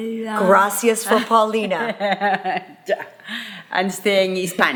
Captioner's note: laughing